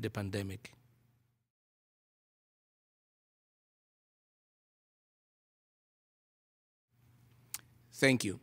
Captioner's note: pause for moment of silence